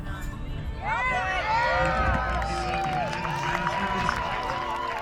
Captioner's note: crowd cheering